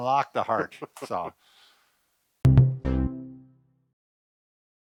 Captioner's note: laughs